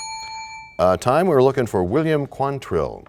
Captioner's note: bell rings, time expires